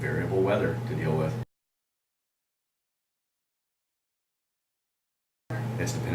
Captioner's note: silence